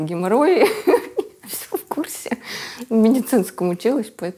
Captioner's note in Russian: смеется